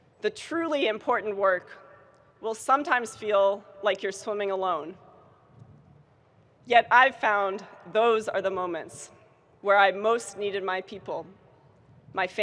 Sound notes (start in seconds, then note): none